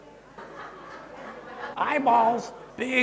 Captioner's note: audience chatter